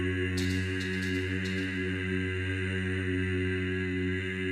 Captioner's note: tapping